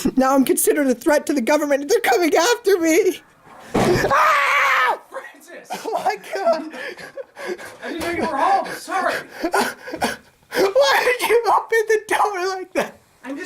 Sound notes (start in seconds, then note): 3.5 door swings open forcefully; 6.8 cries some more